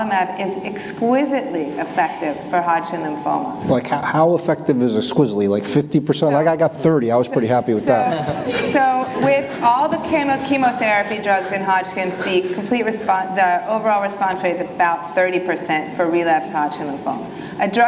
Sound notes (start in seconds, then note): 7.8 audience laughing